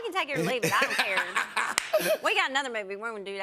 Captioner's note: laughs